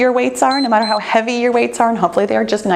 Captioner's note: timer beeps